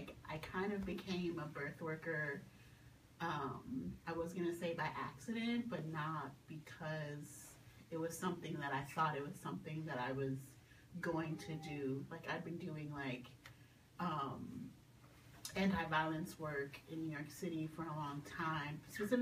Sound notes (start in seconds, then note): none